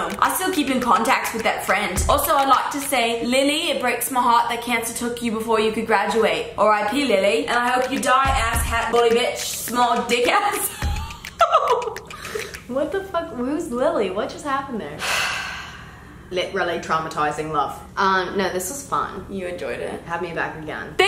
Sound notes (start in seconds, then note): 10.7 laughs; 15.0 sighs